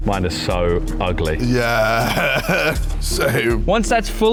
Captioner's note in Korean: 웃음